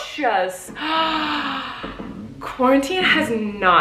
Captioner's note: gasping